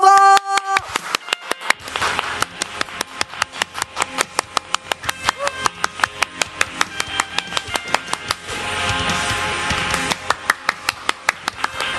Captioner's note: applause